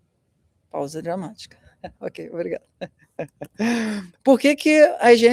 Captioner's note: laughter